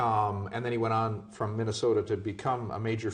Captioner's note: voiceover